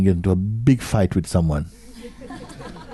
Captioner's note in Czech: smích